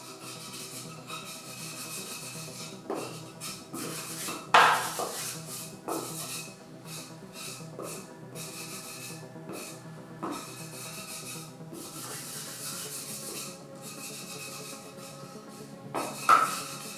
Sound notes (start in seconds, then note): 0.0 sponge scrapes; 7.5 soft electronic music